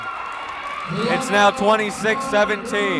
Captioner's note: cheering